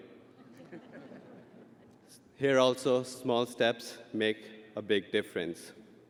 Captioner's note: audience laughing